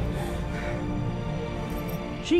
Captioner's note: Arsinoe gasps